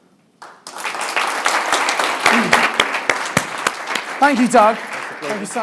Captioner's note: audience applauds